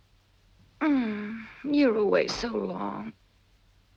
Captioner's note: groans